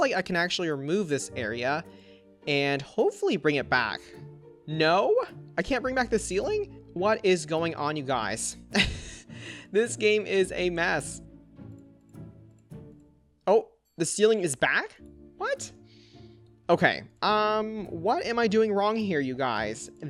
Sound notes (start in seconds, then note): 8.7 chuckles